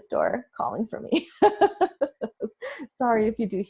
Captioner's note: laughs